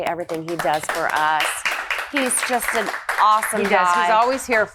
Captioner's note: audience applauding